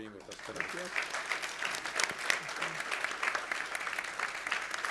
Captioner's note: audience applauding